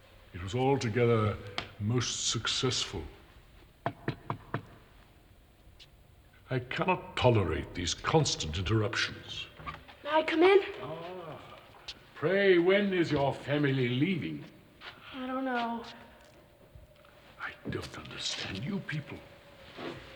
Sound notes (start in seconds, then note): 3.8 knocking at door